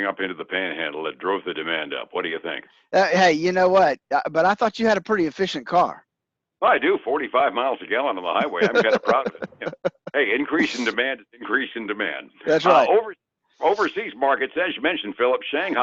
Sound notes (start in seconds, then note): 8.3 laughter